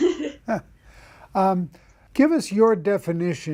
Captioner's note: chuckles